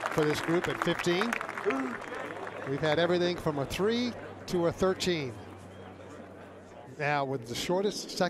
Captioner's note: applause